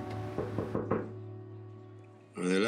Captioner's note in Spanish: Toques en la puerta